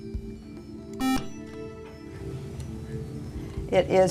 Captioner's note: beeping